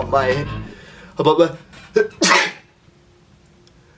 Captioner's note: magical sneeze